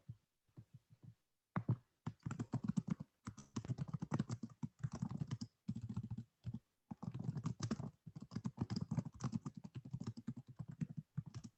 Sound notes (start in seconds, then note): 3.2 typing